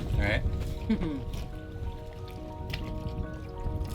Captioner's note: laughs